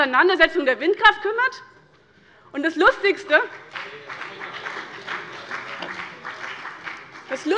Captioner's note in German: Beifall bei dem BÜNDNIS 90/DIE GRÜNEN - Zurufe von der FDP